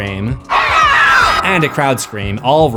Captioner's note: screams